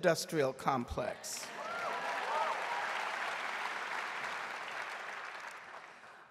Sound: audience cheering and applauding

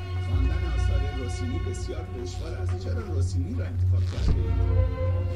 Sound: TV Sound

